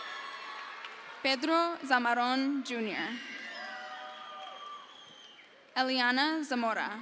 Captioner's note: crowd cheers